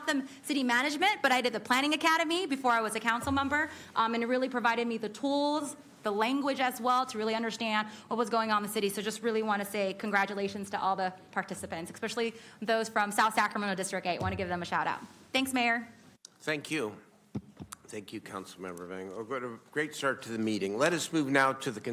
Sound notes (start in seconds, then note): none